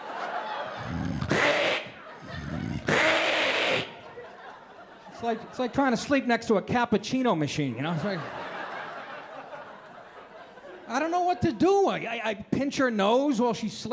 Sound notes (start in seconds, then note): 0.0 laughter; 2.1 loud snoring sound; 2.2 snoring sound